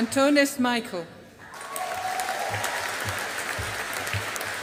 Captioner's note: audience applauding